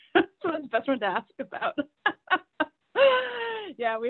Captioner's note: chuckle